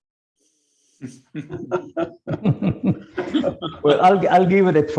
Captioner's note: panelists laughs